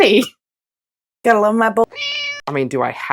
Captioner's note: meow